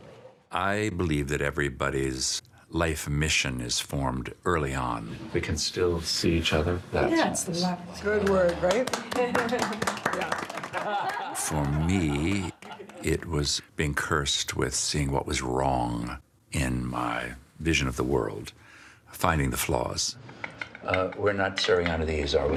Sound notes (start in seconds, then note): 10.0 everyone applauding and laughing